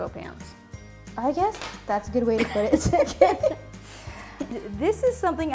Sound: both laugh

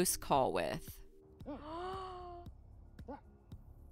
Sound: gasping

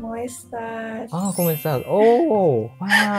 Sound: Spanish

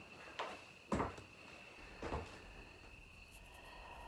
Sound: footsteps

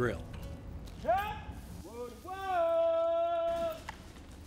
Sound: man screaming

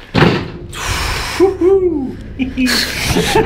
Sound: cage clanging; exhaling deeply; shrieking; men chuckling nervously

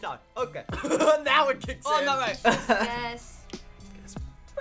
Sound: laughs

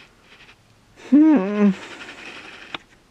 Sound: whining sound

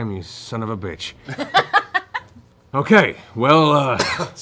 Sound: laughing

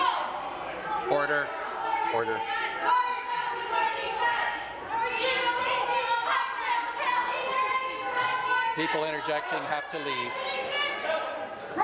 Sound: multiple voices shouting

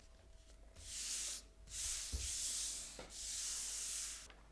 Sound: paper scratching

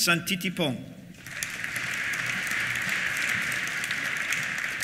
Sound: applause

